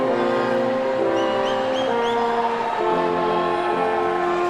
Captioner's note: person whistling